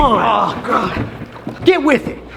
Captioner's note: Ethan groaning